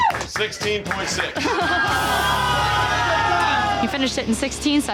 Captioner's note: crowd groaning